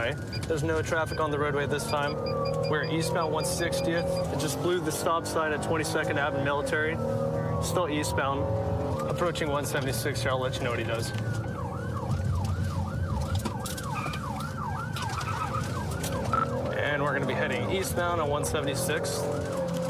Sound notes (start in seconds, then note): 10.6 siren blaring